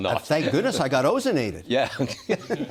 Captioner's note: laughter